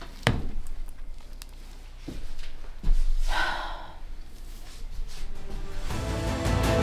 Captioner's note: sigh